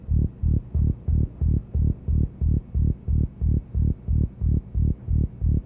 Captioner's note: pulsing electric frequency